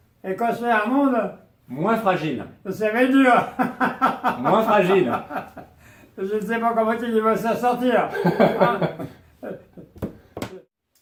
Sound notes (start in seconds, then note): 3.3 laughing